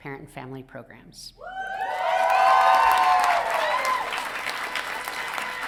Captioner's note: audience cheering